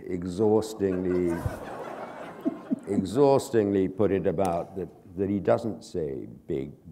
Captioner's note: chuckle